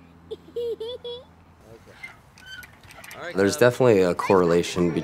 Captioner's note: child laughs